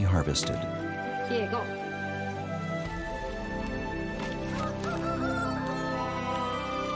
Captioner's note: soft music; cock crows